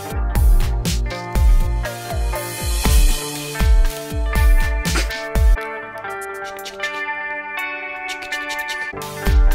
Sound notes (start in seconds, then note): 4.8 laughs; 8.0 shaker rasping